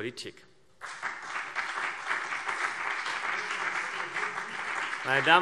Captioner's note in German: Beifall CDU und BÜNDNIS 90/DIE GRÜNEN